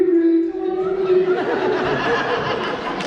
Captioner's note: coos at the baby on her phone; laughter and applause